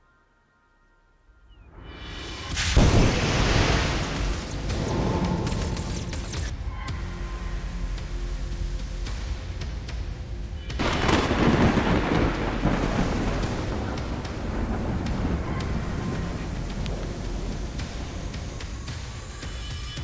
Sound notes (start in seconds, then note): 1.4 birds chirping; 1.7 ship exploding; 4.5 lasers pewing; 6.9 dramatic music; 10.7 rain pouring; 11.2 thunder rumbling